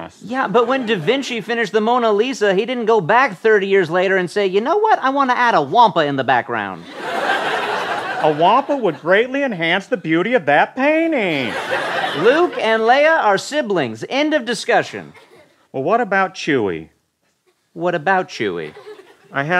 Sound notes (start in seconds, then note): 6.8 laughter